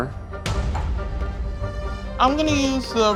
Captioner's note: playful music continues; metal slamming